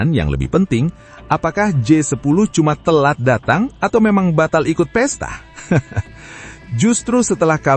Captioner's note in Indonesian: tertawa